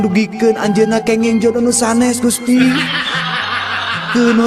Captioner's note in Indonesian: tertawa